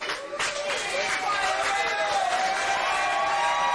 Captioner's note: applause